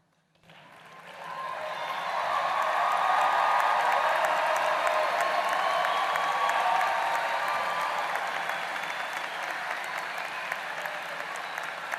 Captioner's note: applause